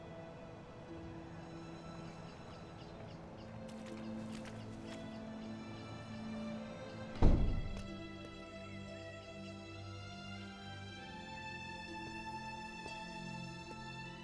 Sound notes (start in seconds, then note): 7.1 door closing; 9.7 soft dramatic music